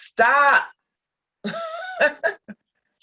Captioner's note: laughter